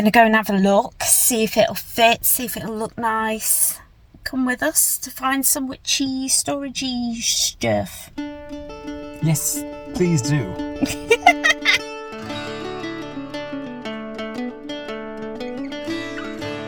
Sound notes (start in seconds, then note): 10.5 laughs; 12.3 fun, jaunty folk music